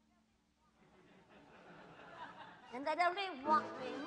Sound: laughter

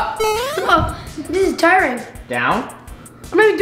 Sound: electronic beeping

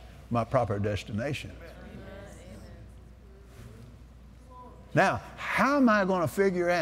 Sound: audience Agrees; audience Agrees

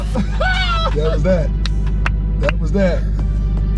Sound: chuckling; clapping

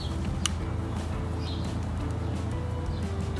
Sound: clicking

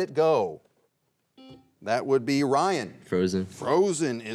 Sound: buzzer beeps once

